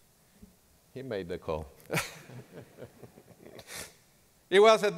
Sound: laughing

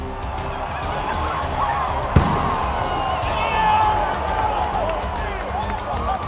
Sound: cheering

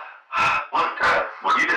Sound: agitated; sigh

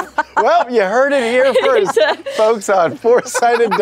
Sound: laughing; laughter

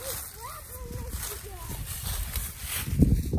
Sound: ruffling dry leaves

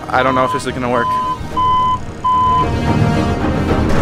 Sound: forklift beeping; dramatic music

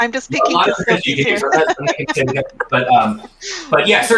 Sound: laughs

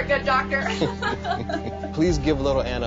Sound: both laugh

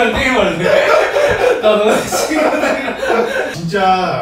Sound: laughing

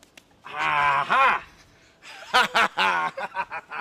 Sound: laughing

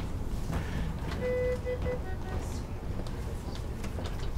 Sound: beeping

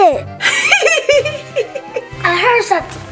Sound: Goo Goo Mom laughing

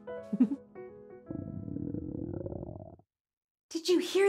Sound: stomach growling

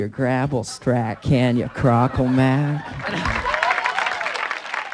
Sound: laughter

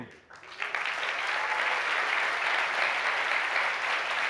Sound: applause

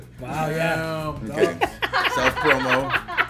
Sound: laugh

